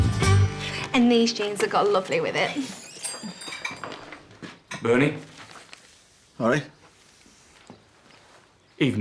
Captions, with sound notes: -And these jeans would go lovely with it. -[doorbell jingles] Bernie. All right?